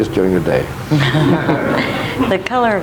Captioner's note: audience laughing